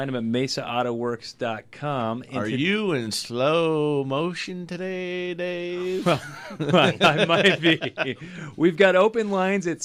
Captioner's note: group laughs